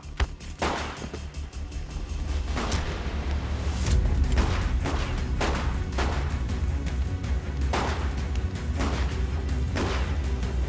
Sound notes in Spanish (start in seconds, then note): 3.0 Disparos